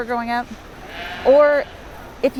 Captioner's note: bleats